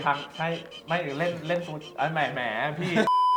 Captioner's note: he's stuttering~